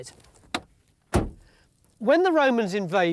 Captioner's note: door shutting